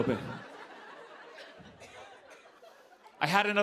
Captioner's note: laughter